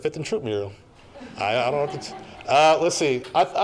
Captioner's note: audience laughing